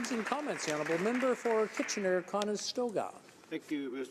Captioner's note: applause